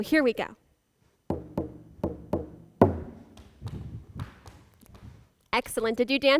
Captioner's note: footsteps; drumming